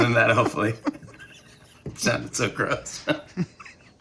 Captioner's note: Nancy and Jimmy chuckling